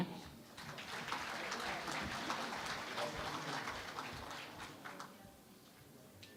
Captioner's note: applause